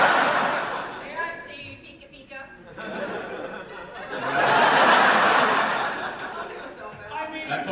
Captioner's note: big audience laugh; audience laugher